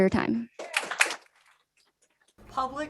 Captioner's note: applause